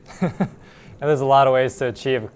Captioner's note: laughs